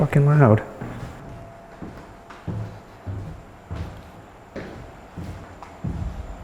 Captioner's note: footsteps descending